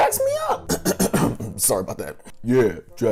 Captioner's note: coughing